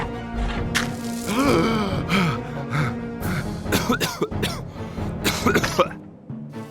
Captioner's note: POOPLOSER_69 wheezes, pants and coughs